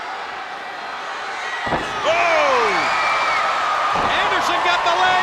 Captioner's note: blows thudding